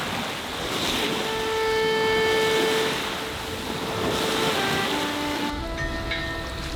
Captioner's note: water splashing; calm music